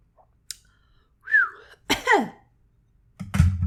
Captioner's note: whistles, coughs